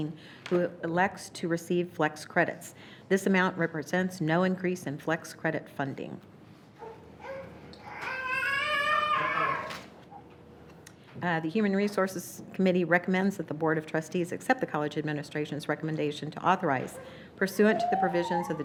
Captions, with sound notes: who elects to receive flex credits. This amount represents no increase in flex credit funding. (baby cries) The Human Resources Committee recommends that the Board of Trustees accept the College administration's recommendation to authorize, pursuant to the provisions